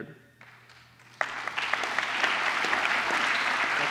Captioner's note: applause